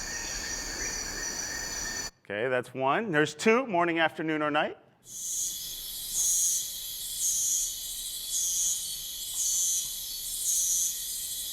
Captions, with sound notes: Okay, that's one. And here's two, morning, afternoon, or night? (rainforest animals buzzing)